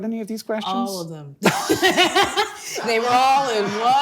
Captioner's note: both laughing